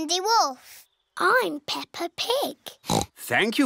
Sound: oinks

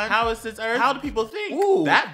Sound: voice crack

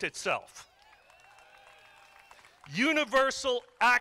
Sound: crowd applauding

